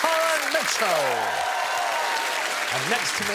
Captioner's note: cheering